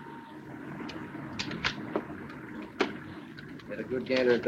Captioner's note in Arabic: ثرثرة الناس; صوت البوق; الكاميرات تلتقط الصور